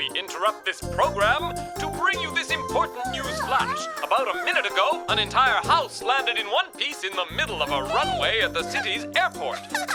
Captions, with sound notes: We interrupt this program to bring you this important news flash. (yawning) About a minute ago, and entire house landed in one piece in the middle of a runway at the city's airport.